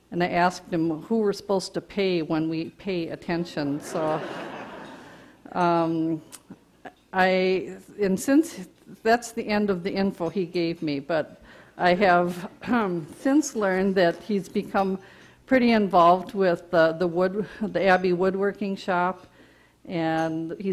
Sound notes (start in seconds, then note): 3.8 audience laughter